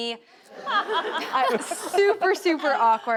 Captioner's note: all laughing